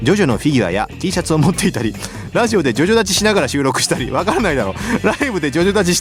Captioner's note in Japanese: 笑い